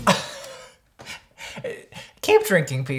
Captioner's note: laughing